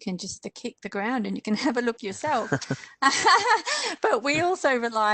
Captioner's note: laughter